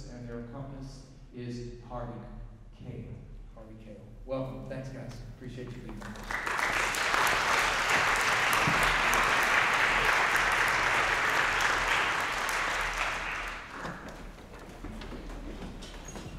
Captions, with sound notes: and their accompanist is Harvey Kahl... Harvey Kahl. Welcome-- thanks, guys. Appreciate you being here. (applause)